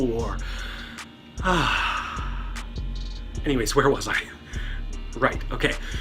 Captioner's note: sighs